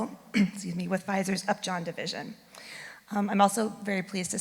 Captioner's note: clears throat